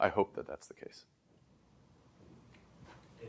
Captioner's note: background static